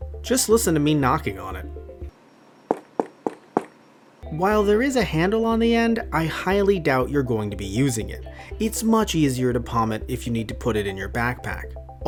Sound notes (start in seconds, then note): 2.7 hard knocking